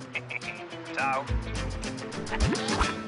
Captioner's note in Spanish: Ríe